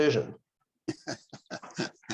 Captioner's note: laughter